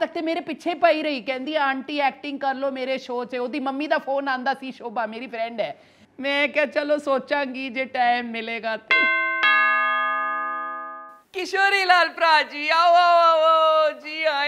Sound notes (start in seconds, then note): 8.9 doorbell ringing